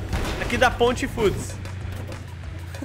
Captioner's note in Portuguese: risos